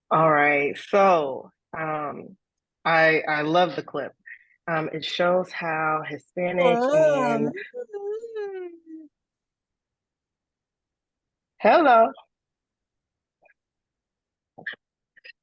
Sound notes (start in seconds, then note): 6.7 distorted audio